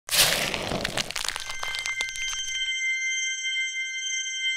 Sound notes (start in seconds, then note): 0.0 crackling